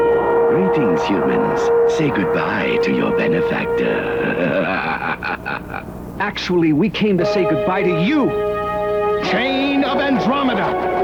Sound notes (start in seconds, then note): 3.8 laughs